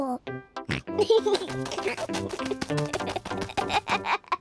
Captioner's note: snorts and giggles